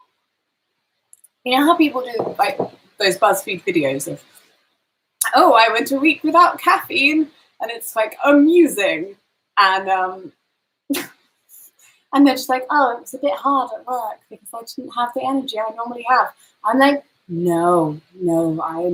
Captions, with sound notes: You know how people do those Buzzfeed videos of, "Oh I went a week without caffeine," and it's like amusing and (scoffs) and then she's like, "Oh, it was a bit hard at work because I didn't have the energy I normally have." I'm like, "No, no."